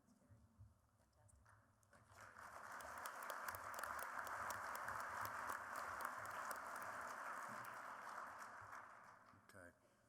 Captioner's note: applause